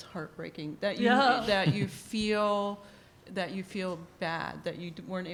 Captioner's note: laughter